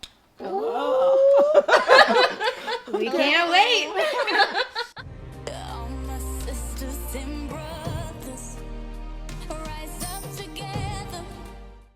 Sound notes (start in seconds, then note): 0.4 laughs; 5.0 slow music